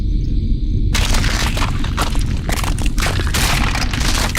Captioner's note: rumbling, cracking